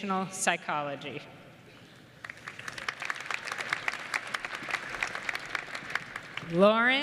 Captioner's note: applause